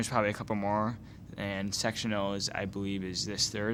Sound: none

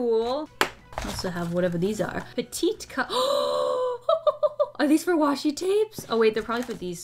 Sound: gasps

